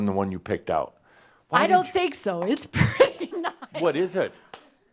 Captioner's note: she chuckles